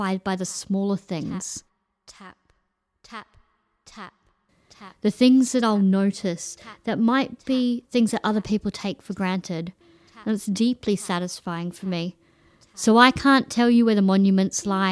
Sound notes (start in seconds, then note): 1.4 ECHOED VOICE “TAP, TAP, TAP” and “BEEP BEEP BEEP”